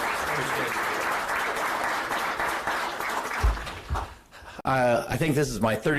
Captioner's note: applause